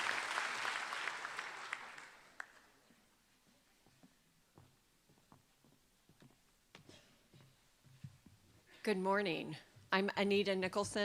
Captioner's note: applause